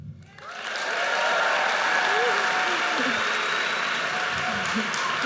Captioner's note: audience cheers and applauds